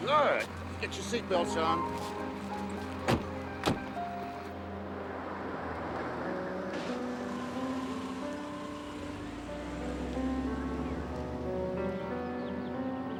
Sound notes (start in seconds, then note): 5.7 slow instrumental music playing; 8.6 engine revving